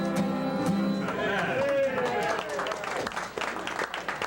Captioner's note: applause